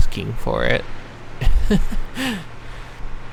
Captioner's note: chuckles